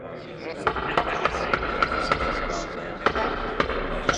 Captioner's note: gavel bangs